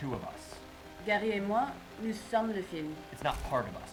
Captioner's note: translator speaking in French